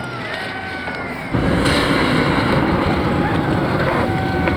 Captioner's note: sideline cheering